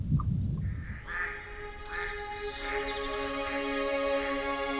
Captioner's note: birds calling